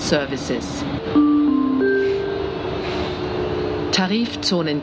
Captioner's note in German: Gong